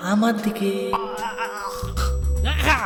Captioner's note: struggling sound